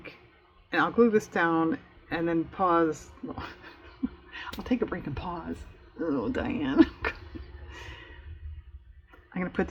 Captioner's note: laughs